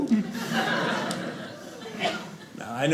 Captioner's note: audience laughing